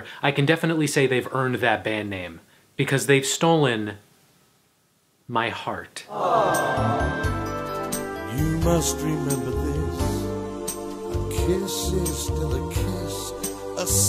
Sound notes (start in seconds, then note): 6.1 crowd; 13.9 upbeat music plays